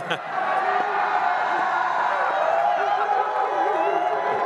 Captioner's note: audience cheers